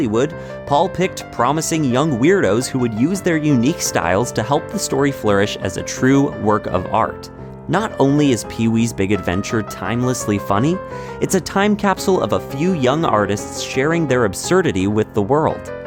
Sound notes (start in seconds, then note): none